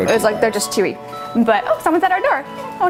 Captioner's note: doorbell rings